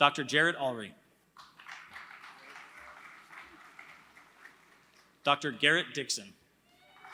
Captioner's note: applause; applause